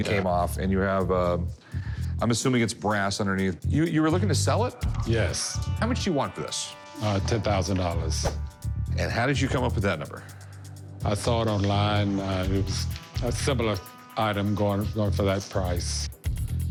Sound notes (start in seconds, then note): none